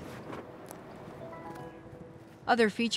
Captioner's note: button blinging